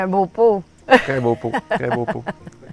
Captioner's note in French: rires